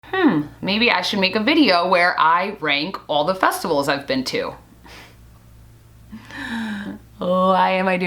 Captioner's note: sigh